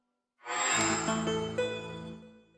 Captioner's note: microsoft sound